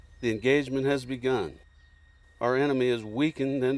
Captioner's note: voiceover